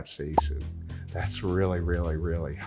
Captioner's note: bubble pops